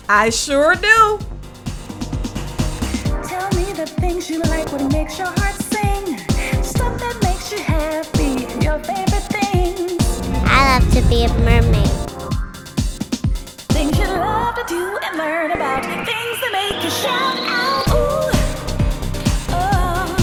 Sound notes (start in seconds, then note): none